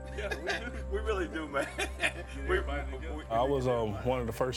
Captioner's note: laughs